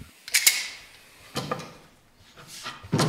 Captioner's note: rattling